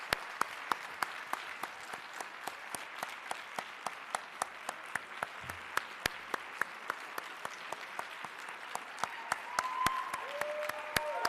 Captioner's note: applause